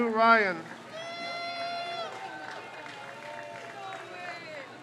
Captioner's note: crowd cheers